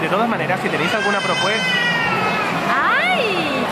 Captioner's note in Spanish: bebé llorando